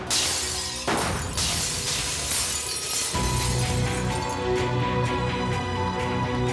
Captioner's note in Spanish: ruido de cristales rotos